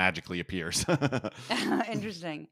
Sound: laugh

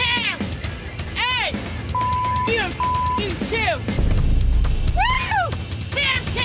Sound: beep

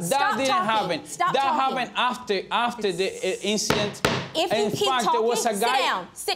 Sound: gavel banging

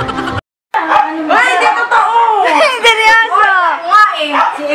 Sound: laughs

